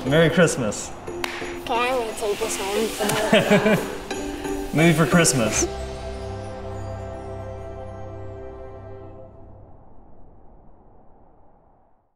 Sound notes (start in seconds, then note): 3.0 laughing; 6.1 cheerful music